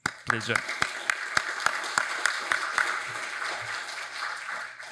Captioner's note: audience applauds